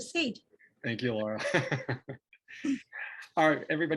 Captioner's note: laughs